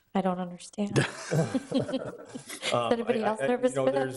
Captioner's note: people laughing